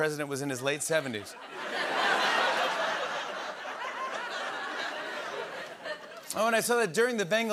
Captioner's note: laughter